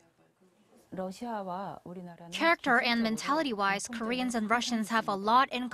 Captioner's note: Korean